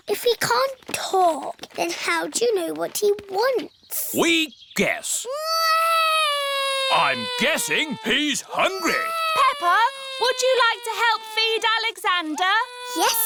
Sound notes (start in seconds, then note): 6.5 alexander wails